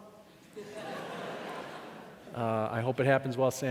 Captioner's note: laughing